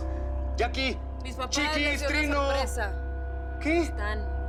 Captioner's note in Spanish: Hablan al unísono